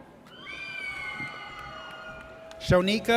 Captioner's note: audience cheers